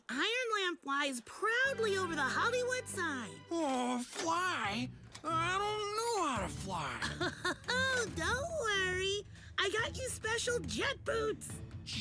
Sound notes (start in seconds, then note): 6.9 chuckling